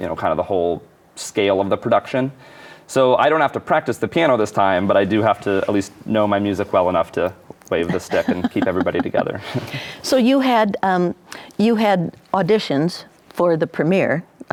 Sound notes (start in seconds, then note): 9.4 laughing